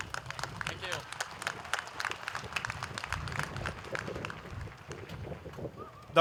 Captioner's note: applause